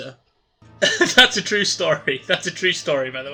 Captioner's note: laughter